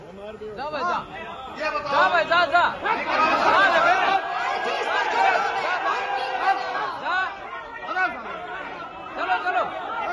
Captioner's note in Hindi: हूटिंग; हूटिंग